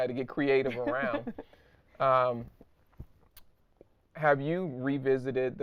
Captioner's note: laughing